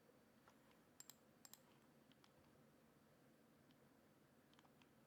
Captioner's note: mouse clicks and clacks